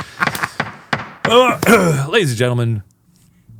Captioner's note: laughing; gavel pounding; clearing throat